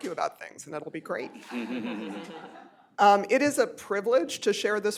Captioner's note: laughter